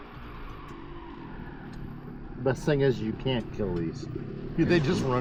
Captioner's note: engine revving